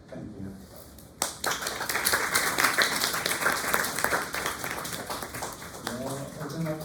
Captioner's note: applause